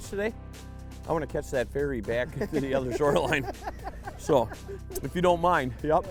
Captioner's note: laughing